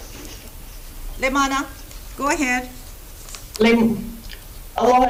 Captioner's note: speaks Hawaiian